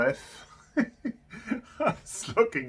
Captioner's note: laughing